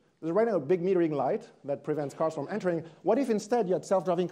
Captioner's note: none